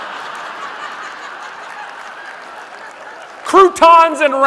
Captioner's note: audience laughing